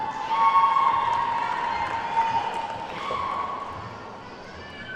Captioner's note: attendees whooping and clapping